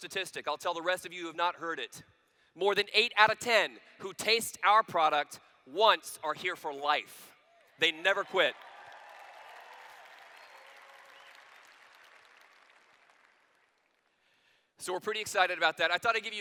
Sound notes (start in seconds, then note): 7.8 applause